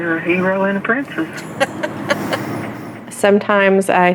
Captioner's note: chuckles